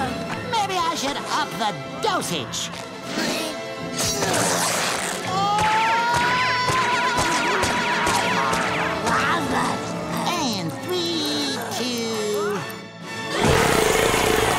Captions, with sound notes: Maybe I should up the dosage! [screaming] And three, two...